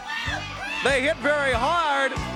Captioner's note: crowd cheering